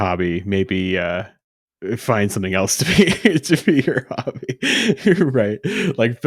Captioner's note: laughs